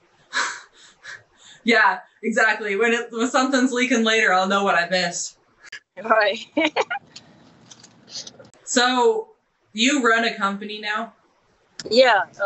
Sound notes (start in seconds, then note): 0.9 chuckling; 6.1 laughing